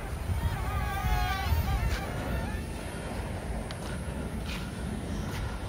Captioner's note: aeroplane sound